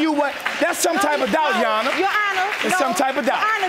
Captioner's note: audience applauding